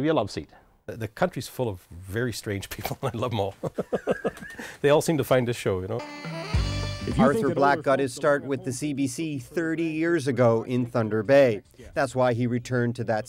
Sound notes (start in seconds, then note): 3.6 laughter